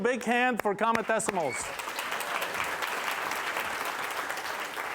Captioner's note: applause